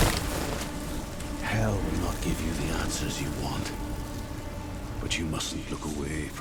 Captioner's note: sound of flames, commotion fade